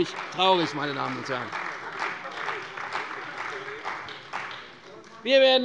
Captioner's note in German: Beifall bei der CDU